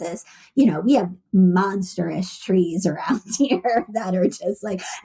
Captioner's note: laughs